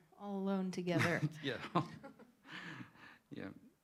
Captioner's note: laughter